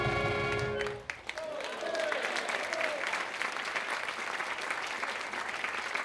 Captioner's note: audience applauding